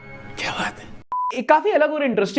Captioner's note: beep